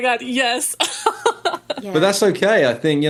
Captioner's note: laughing